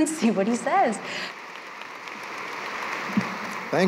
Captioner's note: applause